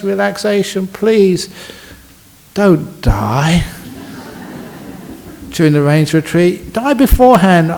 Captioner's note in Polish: śmiech